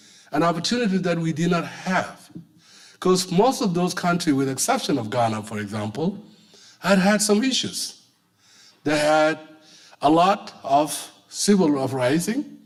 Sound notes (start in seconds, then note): none